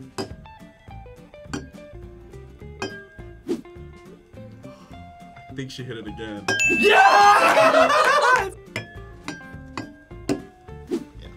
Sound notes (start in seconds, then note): 0.1 glasses chiming; 4.6 sighs; 6.8 laughs; 8.7 glasses chiming